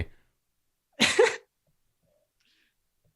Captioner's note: laughter